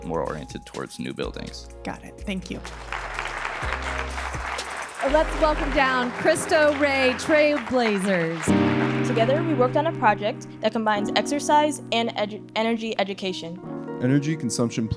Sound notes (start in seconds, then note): 2.6 audience applauding